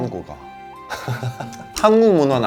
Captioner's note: laughs